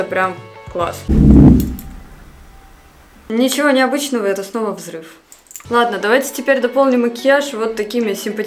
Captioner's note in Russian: громкий грохот